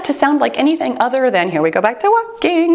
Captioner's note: timer beeps